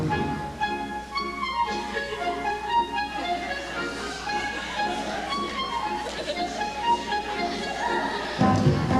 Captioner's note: audience laughter